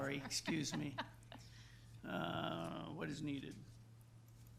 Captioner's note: laughs